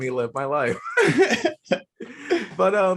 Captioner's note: laughing